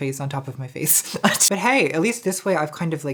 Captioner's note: laughing